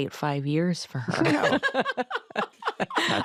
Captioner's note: all laugh